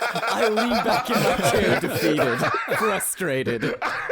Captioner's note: laughter continues